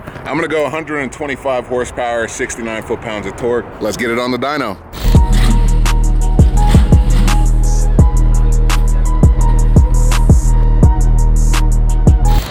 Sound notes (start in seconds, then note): 3.5 car idling; 9.7 engine revs up